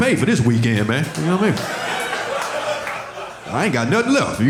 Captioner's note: audience laughing